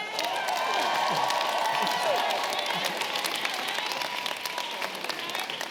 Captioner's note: audience clapping and cheering